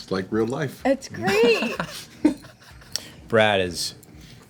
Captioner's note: laughter